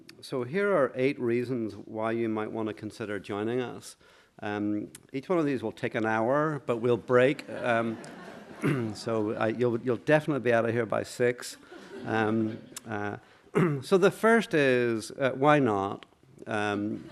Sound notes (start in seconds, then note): 7.5 laughter